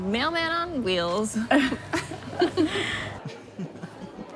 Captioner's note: laughs annoyingly; polite fake gay laughing